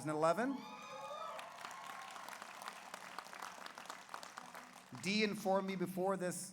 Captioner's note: audience cheers; audience applauds